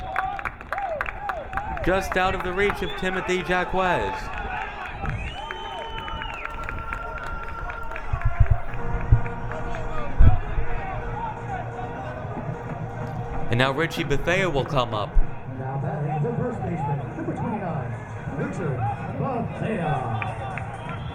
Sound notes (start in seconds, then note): 6.1 crowd cheering; 9.4 electronic rock music; 20.9 electronic rock music